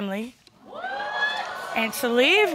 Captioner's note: audience exclaiming